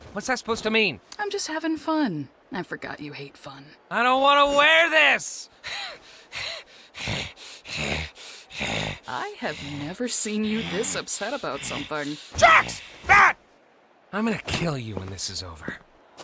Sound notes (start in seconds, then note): 5.4 breathing heavily